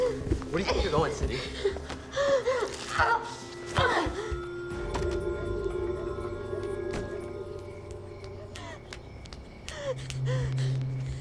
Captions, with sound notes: - Where do you think you're going, Cindy? - [sobbing, panting]